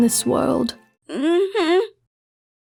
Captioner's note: Aphmau in pain again